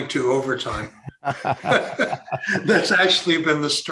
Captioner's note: both laughing